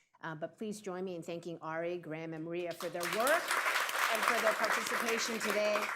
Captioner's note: applause